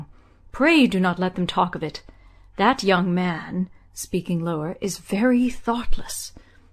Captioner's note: speaking lower